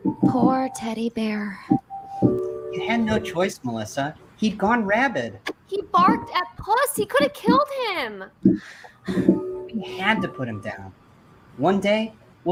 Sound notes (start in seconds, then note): 8.6 sighs